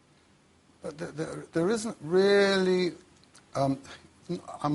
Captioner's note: stutters